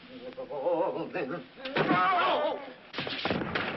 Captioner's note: whimpering